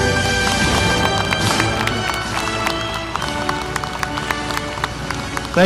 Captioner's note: audience applauding